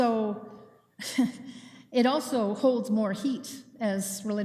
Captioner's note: chuckles